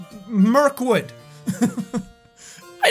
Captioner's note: laughs